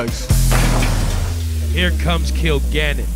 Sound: ball dunking; slow dramatic music

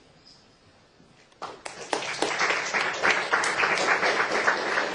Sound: applause

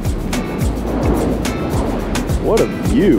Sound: wind gently howling

